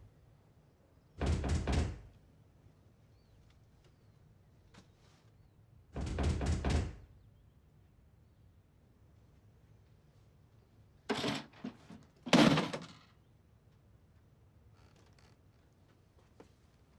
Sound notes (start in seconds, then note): 5.6 banging continues